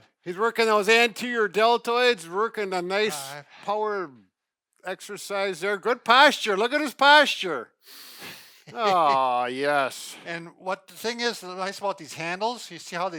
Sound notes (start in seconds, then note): 8.6 laughs